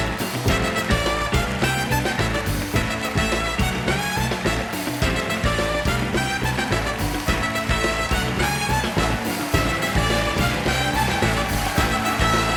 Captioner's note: applause